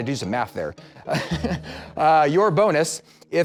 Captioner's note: laughs